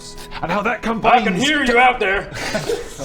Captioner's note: disembodied voice